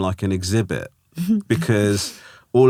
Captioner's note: laughing